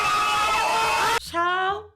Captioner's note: screaming